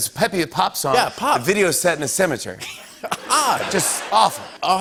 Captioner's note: laughter